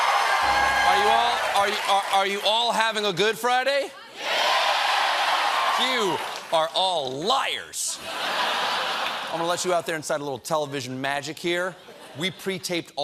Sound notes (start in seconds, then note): 0.0 cheers and applause; 3.9 cheers; 7.9 laughter